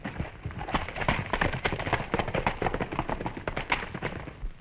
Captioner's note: hooves clattering